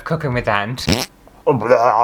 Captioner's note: fart!